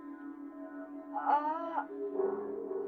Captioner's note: groaning